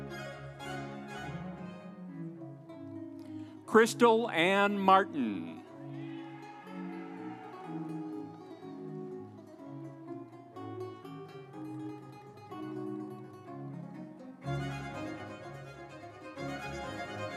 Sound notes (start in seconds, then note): 5.7 audience cheering; 6.4 instrumental music